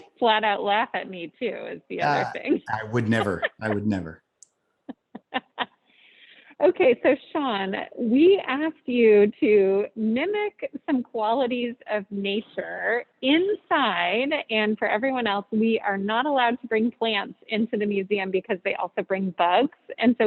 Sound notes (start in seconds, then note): 5.0 laughs